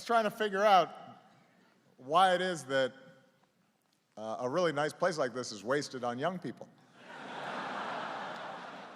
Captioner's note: laughter